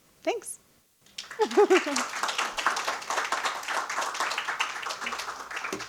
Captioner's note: audience applauding